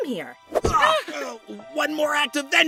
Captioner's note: balloon chuckles; nickel groans